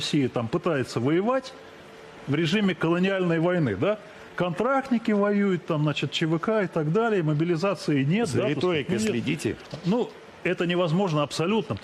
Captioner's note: speaking non-english